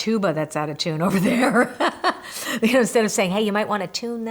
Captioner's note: laughs